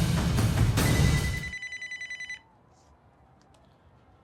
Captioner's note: phone ringing